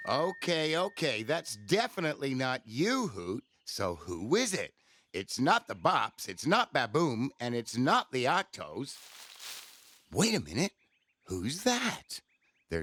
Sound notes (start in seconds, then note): 0.0 bell rings; 8.9 bush rustles